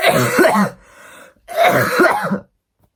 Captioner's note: coughs aggressively